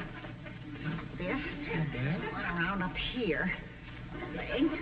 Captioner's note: audience snickering